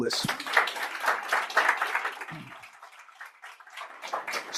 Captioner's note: applause